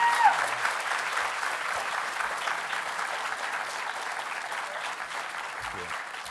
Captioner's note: applause